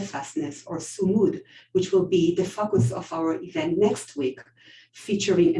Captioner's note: non-english